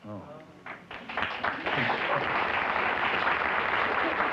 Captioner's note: applause